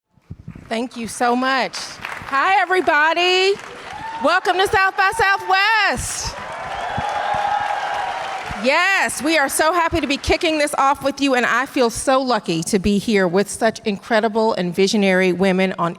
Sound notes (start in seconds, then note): 1.5 audience applause; 3.0 audience cheers and applause; 6.3 audience cheers and applause